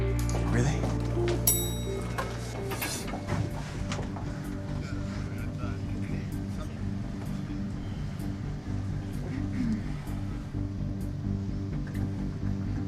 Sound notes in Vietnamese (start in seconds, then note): 1.0 tiếng thang máy: keng; 4.6 xọc xạch